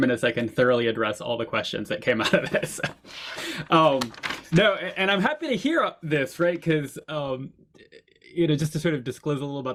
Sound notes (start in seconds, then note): 3.9 laughs